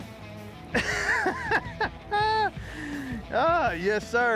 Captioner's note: laughter